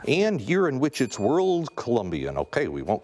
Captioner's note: bell dings